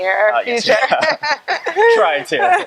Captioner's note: both laughing